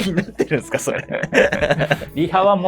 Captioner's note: laughing